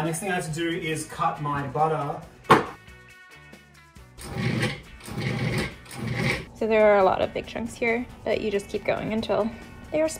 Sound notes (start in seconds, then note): 4.2 blender grinds